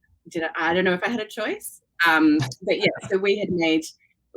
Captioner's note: laughs